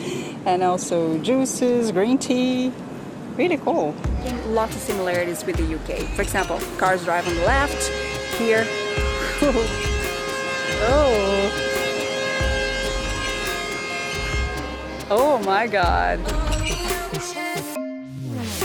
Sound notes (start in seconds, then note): 8.5 honking; 11.9 honking continues